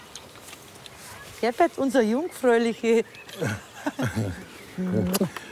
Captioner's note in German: Sie lachen, Kuss